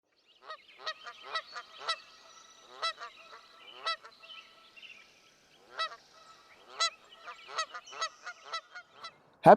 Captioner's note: sound of Geese